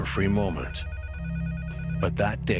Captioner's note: phone ringing